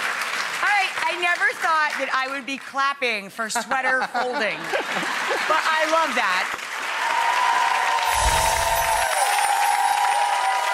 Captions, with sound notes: All right, I never thought that I would be clapping for sweater folding, but I love that. (audience cheers and applause)